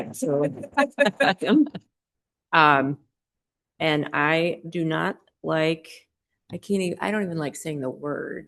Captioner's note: laughter